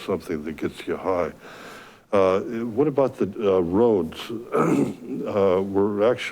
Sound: clears throat

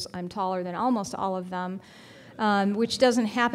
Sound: audience laughing

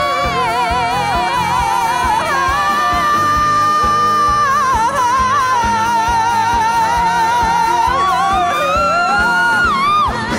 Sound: applause, cheers

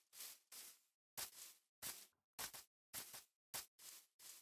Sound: footsteps

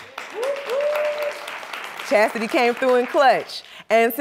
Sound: applause

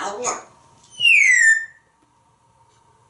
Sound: whistling

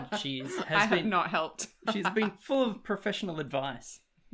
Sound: laughs

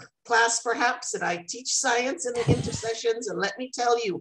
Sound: laughter

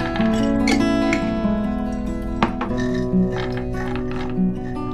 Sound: nuts pour on board; glass jar closing

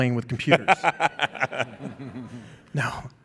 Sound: laughing

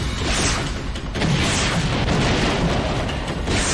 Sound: explosions

